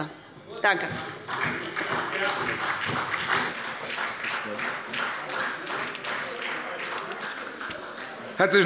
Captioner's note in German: Beifall bei Abgeordneten der SPD